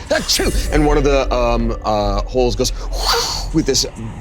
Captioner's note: imitating whooshing